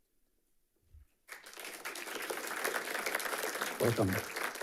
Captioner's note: audience applauding